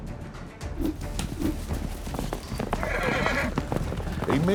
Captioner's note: rope swirling, horse whinnies